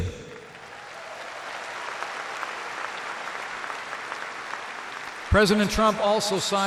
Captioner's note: applause